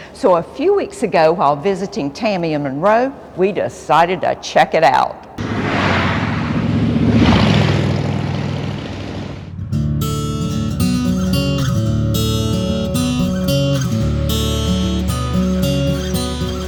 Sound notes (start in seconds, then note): 6.2 motorcycle engines running; 9.5 acoustic guitar music